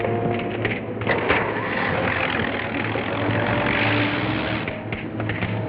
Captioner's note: truck whirring